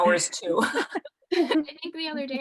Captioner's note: laughter